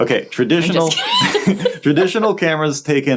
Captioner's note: chuckling